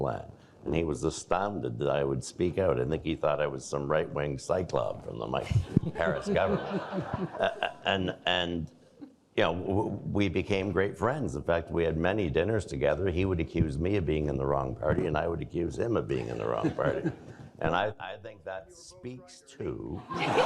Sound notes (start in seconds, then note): 5.5 audience laughing; 20.0 all laughing